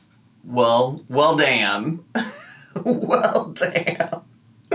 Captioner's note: laughs